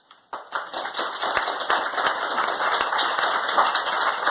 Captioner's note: applause